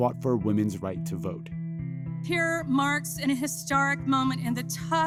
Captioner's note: soundbite of archived recording